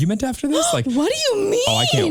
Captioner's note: gasping